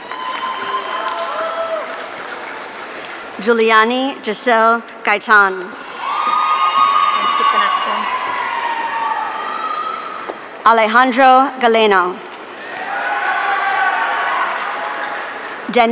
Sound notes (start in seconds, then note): 0.0 audience cheering; 5.8 audience cheering; 12.5 audience cheering